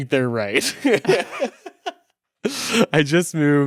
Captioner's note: both laughing